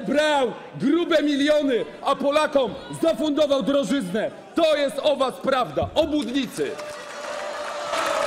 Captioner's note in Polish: Aplauz